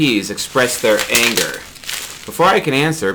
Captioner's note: bubble wrap popping